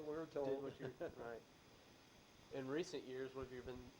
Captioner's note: both laugh